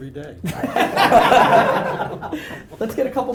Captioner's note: laughing